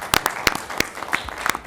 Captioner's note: applause